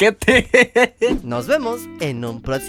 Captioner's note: laughs